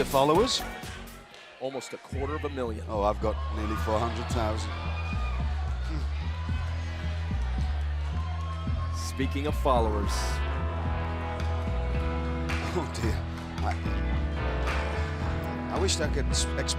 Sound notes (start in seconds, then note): 9.5 crowd chatter